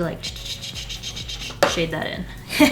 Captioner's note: makes pencil scratching noises